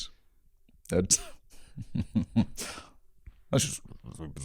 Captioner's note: chuckling